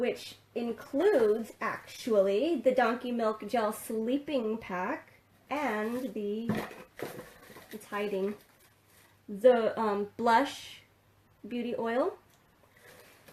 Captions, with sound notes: Which includes actually the Donkey Milk Gel Sleeping Pack, and the (Rustling) it's hiding, the Blush Beauty Oil.